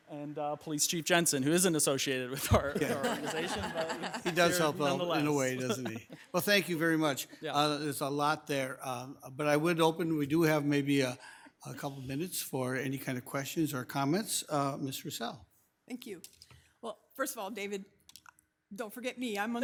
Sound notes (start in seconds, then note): 2.4 all chuckling; 6.0 chuckles